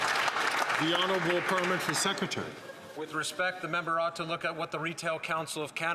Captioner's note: some Applause